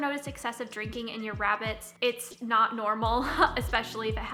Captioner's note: laughs